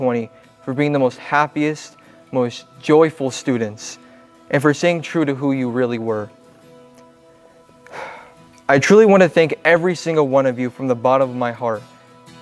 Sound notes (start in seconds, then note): 7.8 sighs